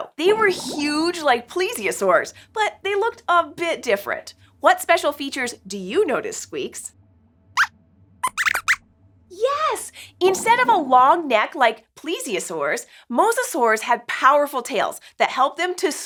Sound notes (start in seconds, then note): 8.2 squeaks squeaks